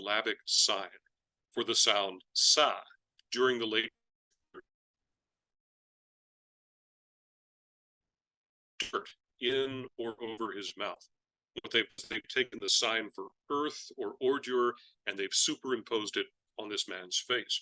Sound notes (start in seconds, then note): 4.6 audio cuts out